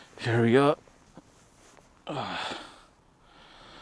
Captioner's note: hold back tears